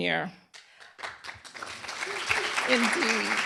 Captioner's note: applause